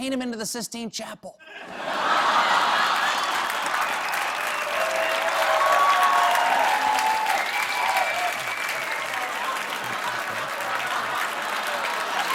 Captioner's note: cheers and applause